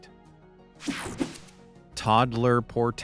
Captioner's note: screen buzzing